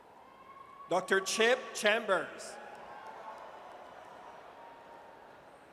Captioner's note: audience cheers